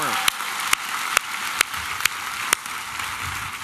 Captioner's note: applause and cheering